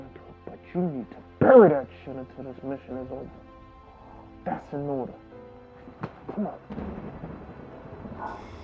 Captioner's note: slaps; thunder in distance